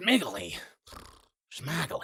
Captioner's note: nickel snores